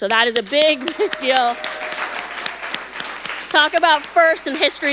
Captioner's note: audience applauding